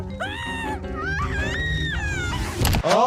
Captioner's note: Handy screaming; Petunia screaming